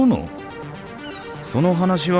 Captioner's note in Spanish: gaviotas chillando